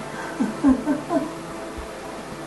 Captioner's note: laughing